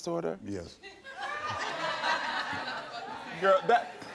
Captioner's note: scattered laughter